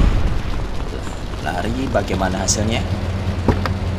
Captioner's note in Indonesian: ledakan granat